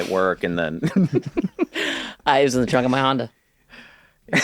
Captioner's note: laughter